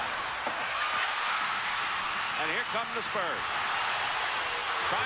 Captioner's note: crowd cheers